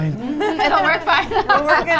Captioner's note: laughs